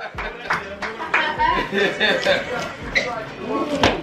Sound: applauding; laughing

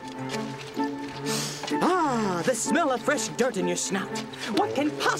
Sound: sniffs

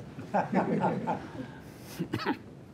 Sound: laughter

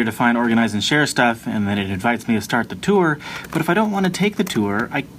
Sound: incessant mouse clicking

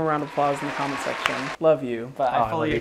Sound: cheering sound effect

